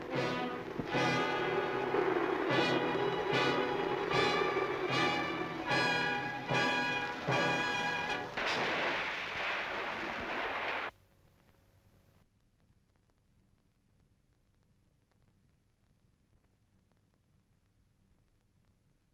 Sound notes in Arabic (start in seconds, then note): 0.1 موسيقى درامية; 9.0 رش الماء